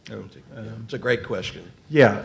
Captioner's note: faintly speaking